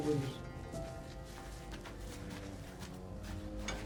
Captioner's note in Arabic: خطوات; صوت قعقعة